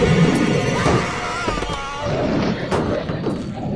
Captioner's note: tense sinister music; veteran screaming continues; hand thuds; shoe thuds; werewolf growling